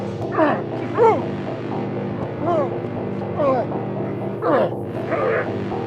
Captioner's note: suspenseful music; both grunting